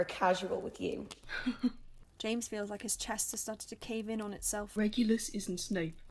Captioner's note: James laughs weakly